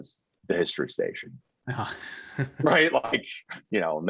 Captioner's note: chuckling